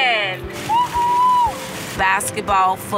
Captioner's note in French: Acclamations